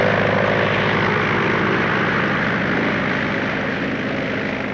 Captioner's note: plane taking off